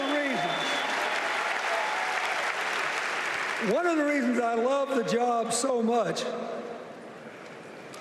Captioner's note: cheers and applause